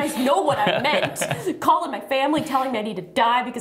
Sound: laughter

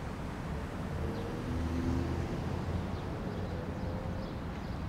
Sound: birds chirping

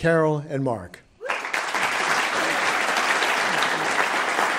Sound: applause

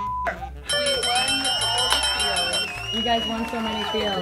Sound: bell rings

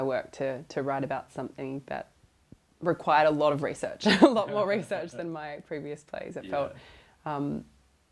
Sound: laughs

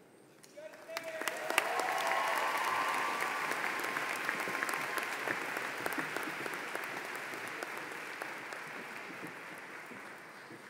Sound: applause

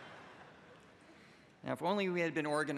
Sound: laughter

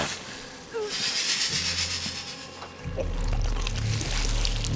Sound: creature hissing

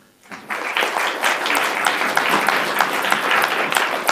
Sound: applauding

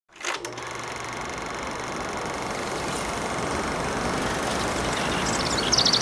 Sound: projector running; birds chirping

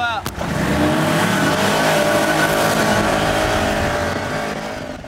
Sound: engines revving

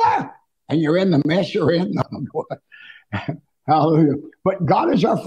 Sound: laughing

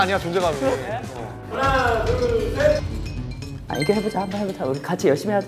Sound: chatting

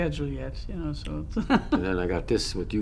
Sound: laughs

